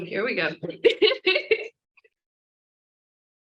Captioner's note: laughs